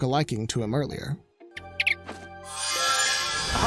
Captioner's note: chirping; magical whooshing